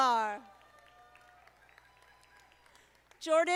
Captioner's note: audience applauding